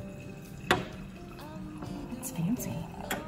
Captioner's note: wine pouring